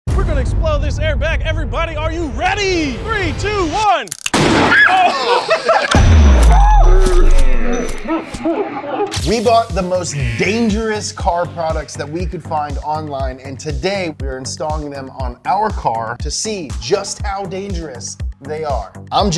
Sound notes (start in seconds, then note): 4.2 air bag explodes; 4.6 person screams; 4.8 laughing; 7.2 slow motion laughing